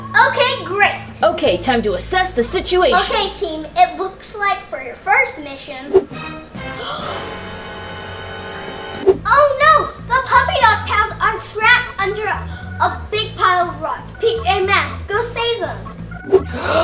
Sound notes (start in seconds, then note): 6.3 dramatic music; 6.7 gasps; 16.4 gasps